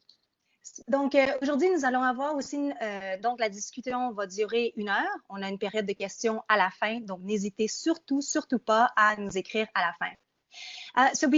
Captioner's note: speaking in French